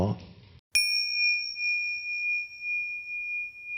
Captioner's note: bell rings